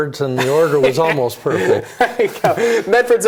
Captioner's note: laughs